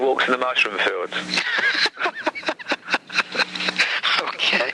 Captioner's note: both men laugh